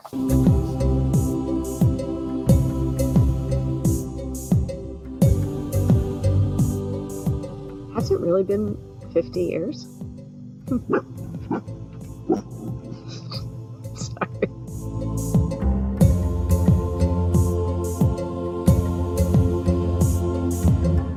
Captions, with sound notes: (joyful transition music) - Has it really been, 50 years? (dog barking) Sorry. (joyful transition music)